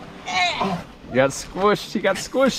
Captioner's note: groans